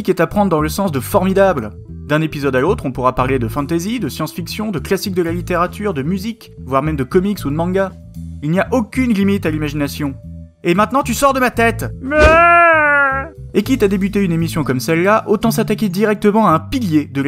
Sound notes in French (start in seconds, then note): 12.0 Aaaaaaaaah!